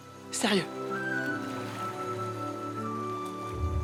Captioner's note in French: éclaboussures d'eau